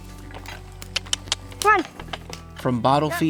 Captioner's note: wood thuds; clicks tongue